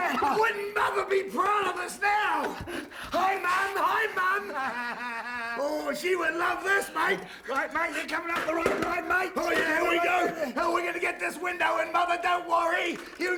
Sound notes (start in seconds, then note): 4.7 laugh